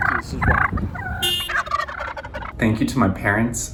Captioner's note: turkeys gobbling